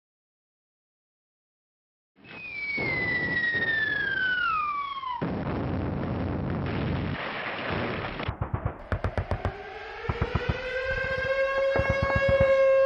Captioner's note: explosions, gunshots, sirens wailing